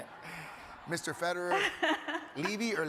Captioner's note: audience laughs